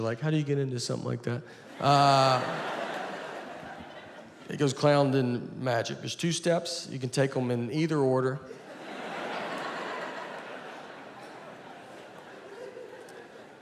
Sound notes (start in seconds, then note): 1.6 audience laughing; 8.4 audience laughing